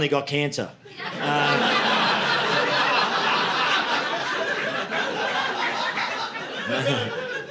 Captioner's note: audience laughing